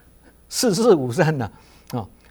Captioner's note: ‘die die no life’ in Cantonese